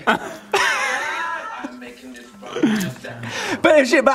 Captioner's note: both laugh